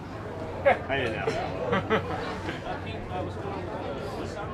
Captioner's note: chuckles